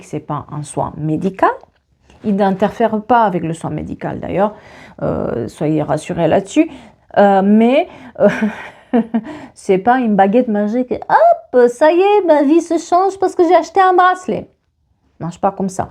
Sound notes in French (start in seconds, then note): 8.3 rires